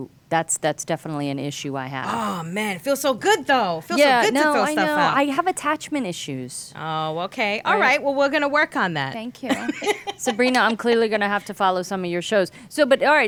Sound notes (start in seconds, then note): 9.5 laughing